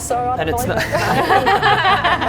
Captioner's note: laughing